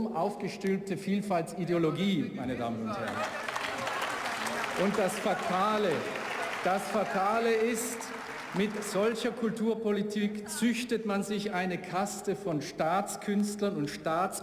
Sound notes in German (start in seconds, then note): 2.9 Beifall, Zwischenrufe